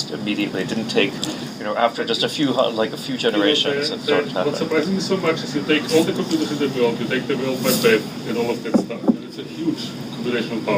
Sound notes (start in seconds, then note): none